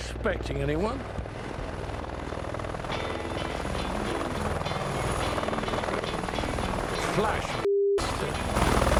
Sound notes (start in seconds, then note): 1.9 helicopter engine whirring; 1.9 upbeat music